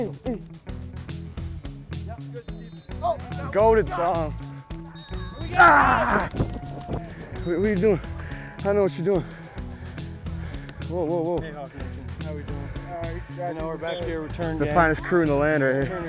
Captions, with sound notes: - Go! - Go get some. [shouts] - What-what are you doing? I don't know what you're doing. Whoa-whoa-whoa. - Hey Hawk Nation, how are we doing? - Now, we're back here. - It's the finest crew in the land, right here. - Turner gang. - Finest crew in the last.